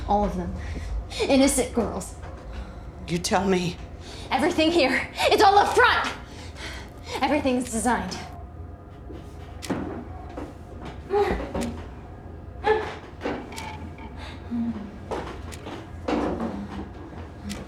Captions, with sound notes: All of them, innocent girls. - You tell me. - Everything here is all a front! Everything's designed. (tense gloomy music) (tense gloomy music) (clock ticking)